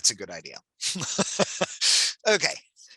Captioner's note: laughs